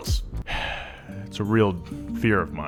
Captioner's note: sighs